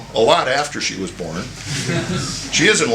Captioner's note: laughter